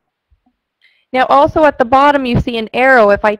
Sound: voiceover

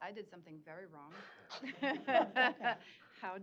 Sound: laughter

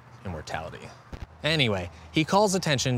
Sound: static

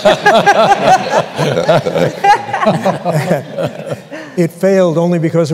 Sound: laughter

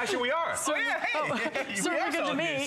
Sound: laughter

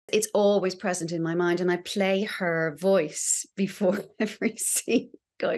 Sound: chuckles

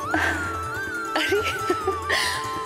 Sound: giggles

